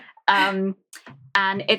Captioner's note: laughs